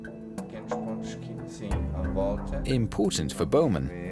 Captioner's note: man speaking German